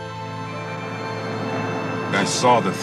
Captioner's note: car engine roaring